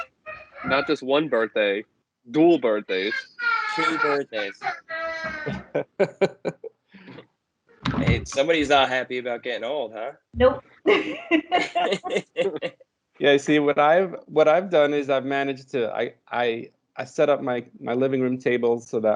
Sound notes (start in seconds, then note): 2.8 child crying; 10.9 laughter